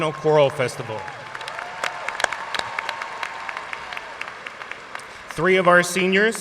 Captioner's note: audience cheering and applauding